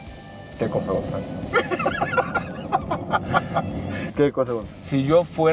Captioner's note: laughter